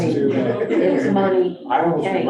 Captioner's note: group murmuring